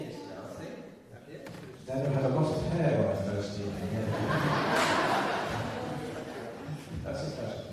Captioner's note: laughter